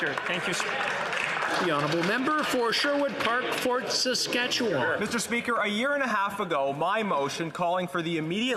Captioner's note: some Applause